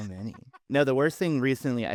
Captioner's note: laughing